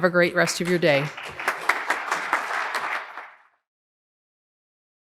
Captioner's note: audience applauds